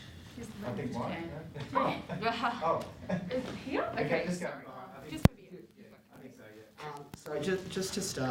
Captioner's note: background chatter